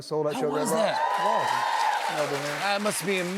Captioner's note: cheering, applause